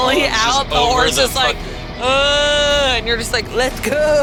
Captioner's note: groans